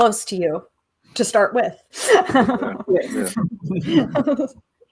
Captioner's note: laughs